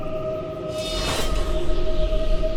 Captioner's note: A blade pierces flesh